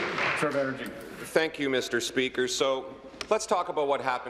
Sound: applause

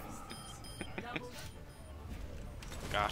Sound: giggles

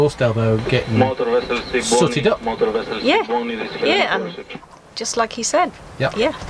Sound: loud voice comes over VHF Radio

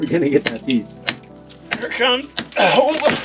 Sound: chisel clinking

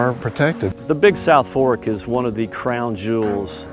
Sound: voiceover

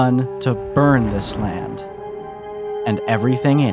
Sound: thunder

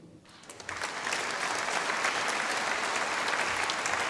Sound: audience applauding

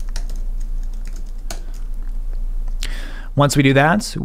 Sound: typing

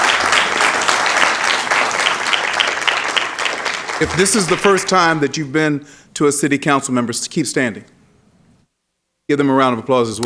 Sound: applause

